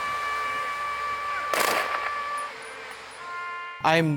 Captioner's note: loud yelling; guns firing